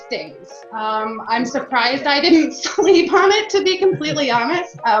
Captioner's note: chuckles